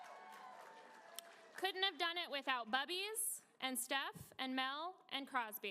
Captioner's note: applause